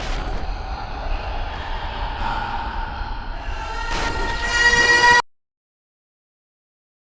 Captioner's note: deep evil voice laughs; Tim screams